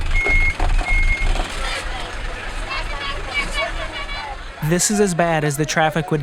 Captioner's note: tires spinning on loose rocks; sounds of busy market